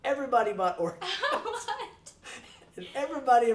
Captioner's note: laughing